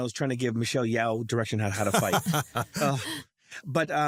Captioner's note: laugh